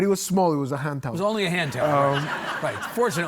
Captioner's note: audience laughing